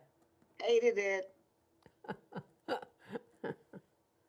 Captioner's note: laughing